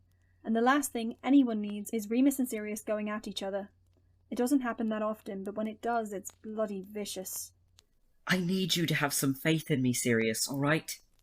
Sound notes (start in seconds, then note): none